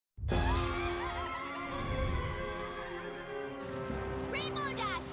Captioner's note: all screaming